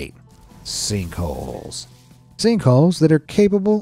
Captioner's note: screen whooshing